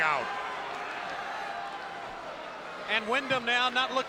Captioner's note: spectators cheering